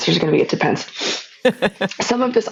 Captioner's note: laughing